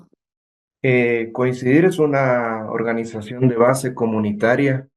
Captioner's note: speaking in Spanish